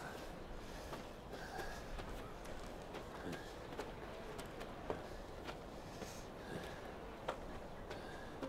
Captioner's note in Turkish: Ayak sesleri